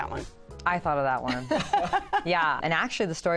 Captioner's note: laughter